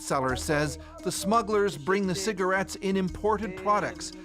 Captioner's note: speaking alternate language